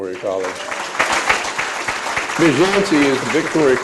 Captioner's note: applause